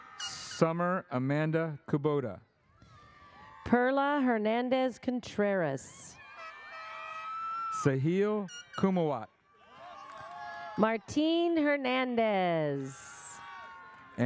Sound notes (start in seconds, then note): 0.0 audience cheers; 6.2 audience cheers; 6.8 airhorn sounds